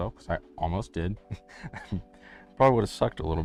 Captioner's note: chuckles